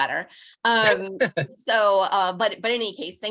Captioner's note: laughing